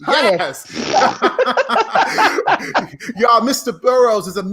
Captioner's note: laughing